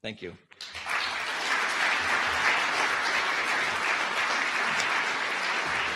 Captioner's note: audience applause